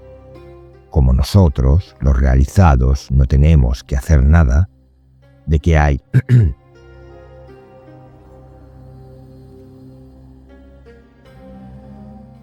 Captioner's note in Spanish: carraspeo